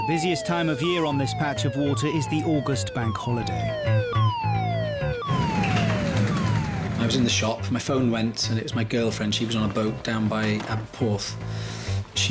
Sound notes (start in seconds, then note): 4.0 alarm blaring; 5.1 boat engine revving